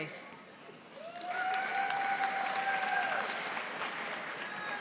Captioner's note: audience applauding